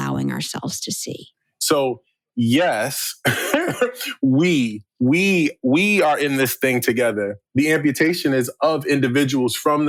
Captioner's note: chuckle